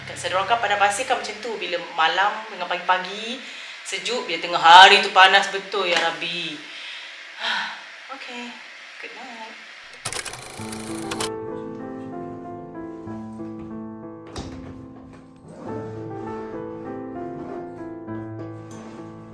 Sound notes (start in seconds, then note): 7.4 sigh; 10.2 background music